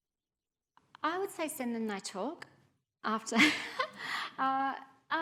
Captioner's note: chuckling